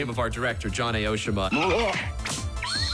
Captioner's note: squeaks, grunts; alarm blaring